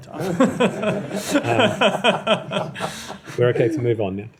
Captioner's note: laughter